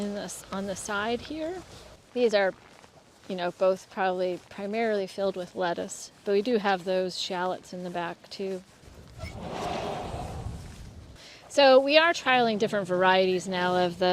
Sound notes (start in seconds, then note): 9.2 door opening